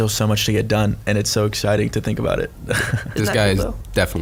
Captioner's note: laughs